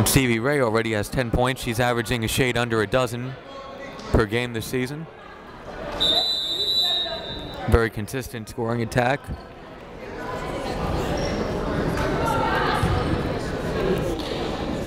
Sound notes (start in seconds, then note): 6.0 whistle blaring